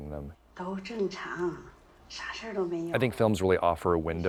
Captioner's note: female movie character speaking foreign language